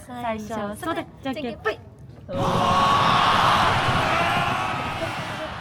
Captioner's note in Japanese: 叫び声